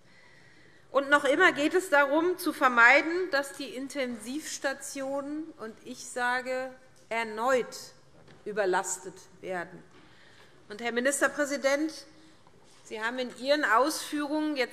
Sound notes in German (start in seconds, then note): none